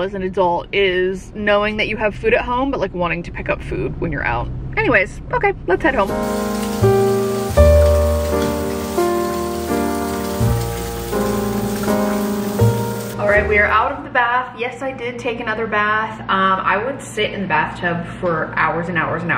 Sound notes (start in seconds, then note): 6.1 gentle music; 7.4 water fizzes